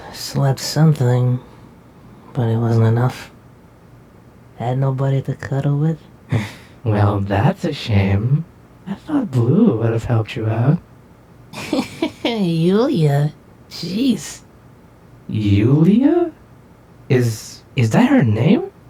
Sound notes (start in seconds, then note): 6.1 Vixen chuckles; 11.5 Plushtrap giggles